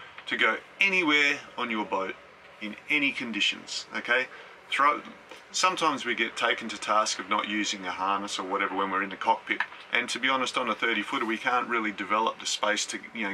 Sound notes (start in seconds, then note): none